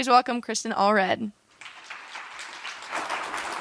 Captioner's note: applause